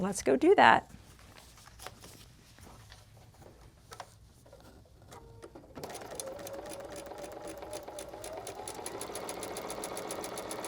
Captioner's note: machine Whirring